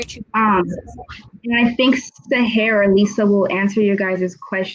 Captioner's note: technical glitch